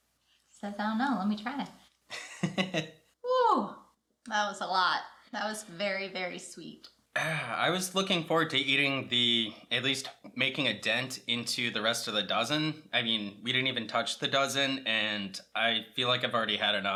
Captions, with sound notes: She says, "I don't know. Let me try it." [laughter] Whoo! That was a lot. That was very, very sweet Ah, I was looking forward to eating the, at least making a dent, into the rest of the dozen. I mean, we didn't even touch the dozen and I feel like I've already had enough.